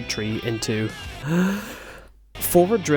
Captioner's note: deep inhale